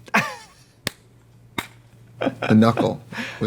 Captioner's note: Katya laughs; clapping